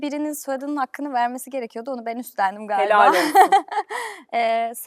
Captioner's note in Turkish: kahkaha